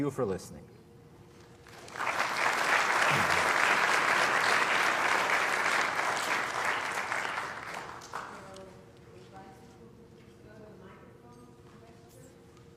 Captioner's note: applause